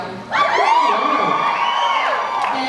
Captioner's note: cheers, applauds